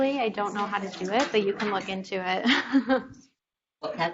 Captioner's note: laughs